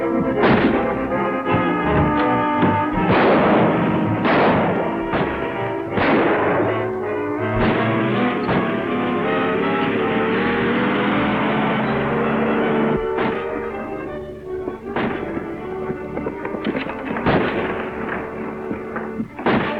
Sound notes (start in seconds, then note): 3.1 guns fire; 5.8 gun fires; 8.1 engine rumbles; 13.8 adventurous music; 17.2 guns fire